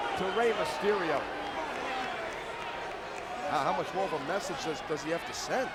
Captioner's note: applause